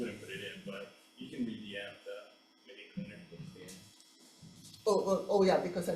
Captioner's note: faintly speaking